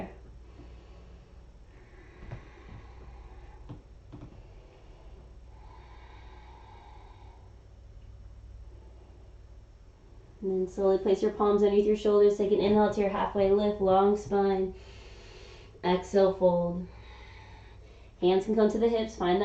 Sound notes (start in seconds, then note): 0.3 exhaling; 0.3 inhaling; 16.9 exhaling; 16.9 inhaling